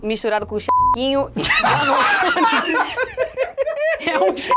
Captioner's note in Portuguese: risadas